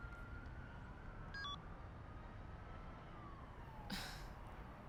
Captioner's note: phone beeps; chuckles quietly